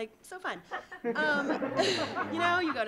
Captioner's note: audience laughing